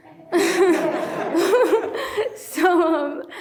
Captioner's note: everyone laughs